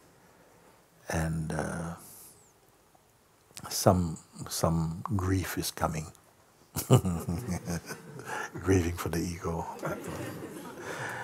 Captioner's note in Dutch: gelach